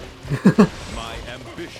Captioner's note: chuckles